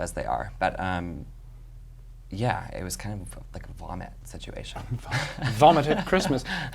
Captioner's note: laughs